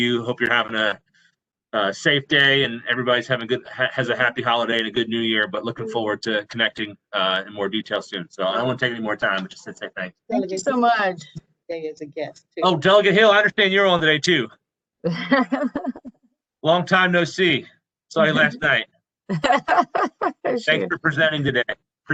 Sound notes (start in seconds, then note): 15.1 laughter; 19.3 laughter